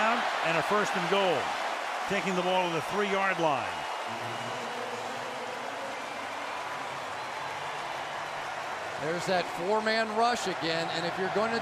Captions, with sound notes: First down and a first and goal, taking the ball to the 3-yard line. [pa announcement] There's that four-man rush again.